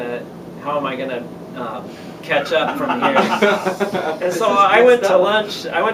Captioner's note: laughter